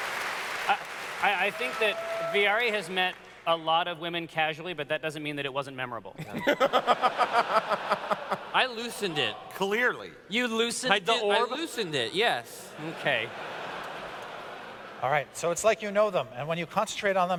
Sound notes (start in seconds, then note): 6.2 laughter; 12.7 laughter